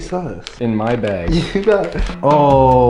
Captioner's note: chuckles